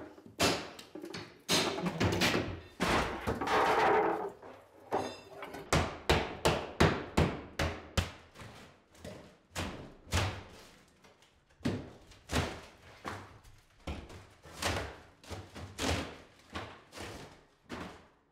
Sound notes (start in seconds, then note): 5.5 hammer banging